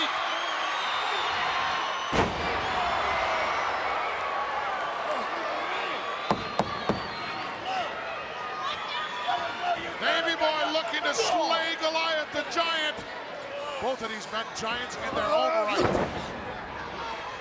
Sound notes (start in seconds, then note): 0.2 crowd yelling; 2.0 Bulldog thuds; 6.3 hand pounding